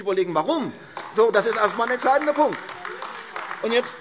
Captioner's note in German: Beifall AfD - Zurufe